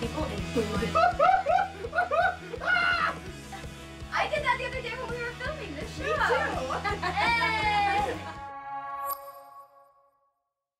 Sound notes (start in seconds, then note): 0.9 laughing; 6.0 laughter